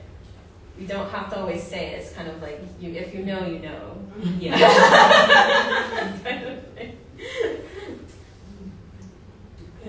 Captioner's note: laughter